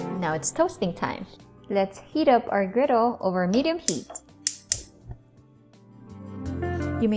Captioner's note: stove clicks